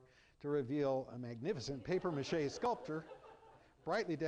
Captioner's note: laughter